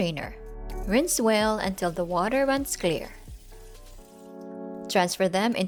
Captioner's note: water running